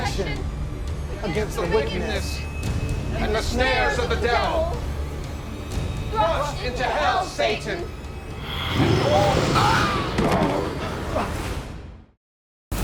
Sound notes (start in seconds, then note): 8.6 growling; 10.4 groaning; 10.4 screaming